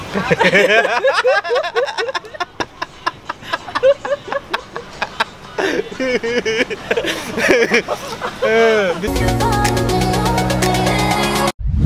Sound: laughing

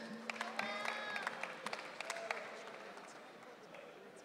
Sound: audience cheering

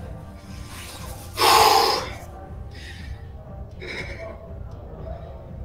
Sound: exhales sharply

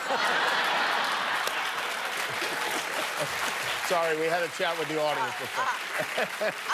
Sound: laughter; applause

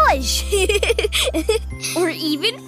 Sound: Peter laughs

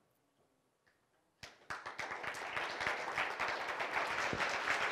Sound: applause

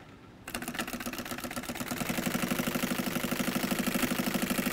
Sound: sewing machine humming

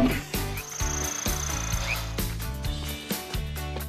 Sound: whirring

